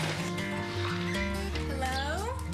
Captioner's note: bag rattling